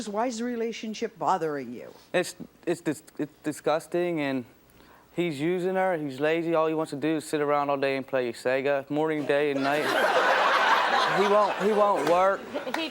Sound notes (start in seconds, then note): 9.5 audience laughs